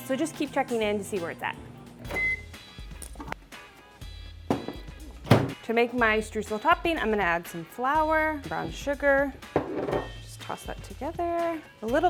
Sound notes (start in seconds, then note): 2.0 microwave beeping